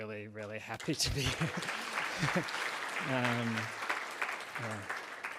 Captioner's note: audience applauds